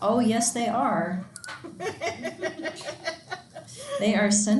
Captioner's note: student laughing